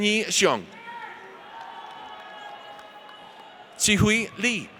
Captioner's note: audience cheers